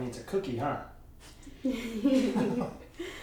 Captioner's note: laughter